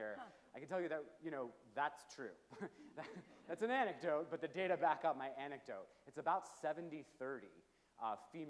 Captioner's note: chuckles; low chuckes from audience